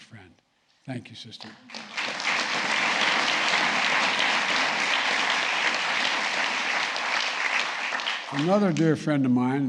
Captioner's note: applause